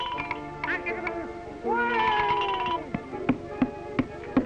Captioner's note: Felix babbles